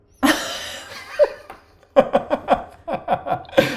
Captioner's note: both laugh